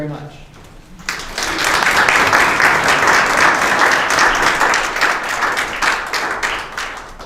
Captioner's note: applause